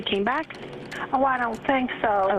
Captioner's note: 911 recording